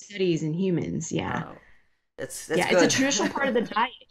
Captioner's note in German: lacht